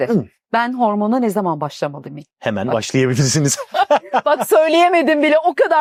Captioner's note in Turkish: kahkaha